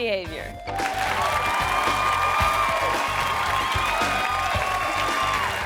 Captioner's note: audience applauding and cheering